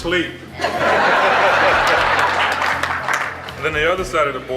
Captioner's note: laughter